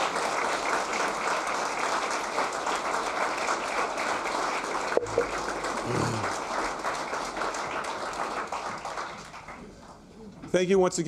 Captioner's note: applause